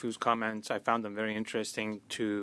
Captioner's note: speaking French